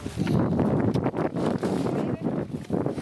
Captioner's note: wind blowing; speaking in foreign language